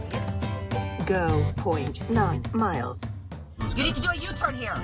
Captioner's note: navigation system voice